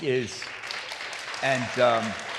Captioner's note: applause